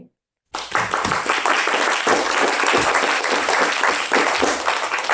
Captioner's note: attendees applauding